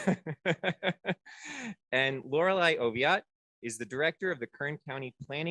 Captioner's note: laughter